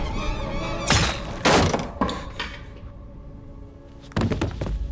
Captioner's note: object thuds